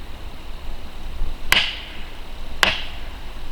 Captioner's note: knocking